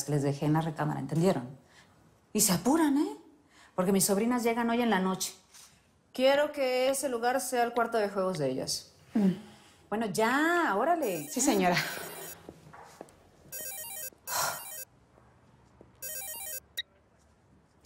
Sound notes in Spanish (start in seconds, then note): 10.0 Suena el celular